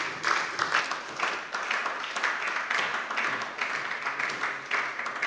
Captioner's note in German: Beifall bei der SPD